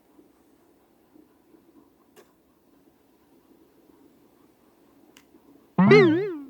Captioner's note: ding